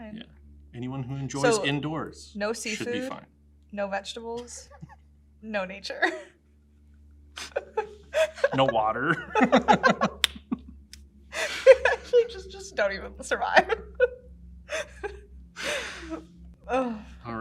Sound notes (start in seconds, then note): 6.3 laughs; 9.9 both laugh; 15.6 both laugh